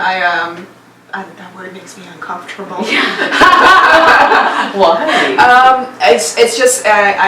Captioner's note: laugh